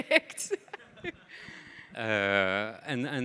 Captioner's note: laughs; audience laughing